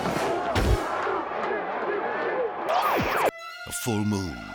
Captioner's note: crowd cheering; mascots thud